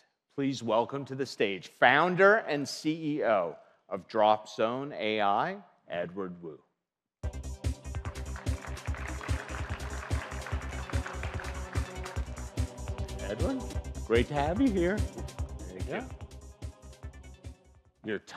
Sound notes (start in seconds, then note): 8.0 audience applauding